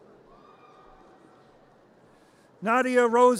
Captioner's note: audience cheers